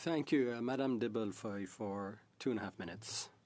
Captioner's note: speaking French